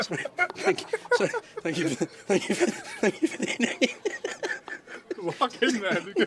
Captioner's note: uncontrollable laughter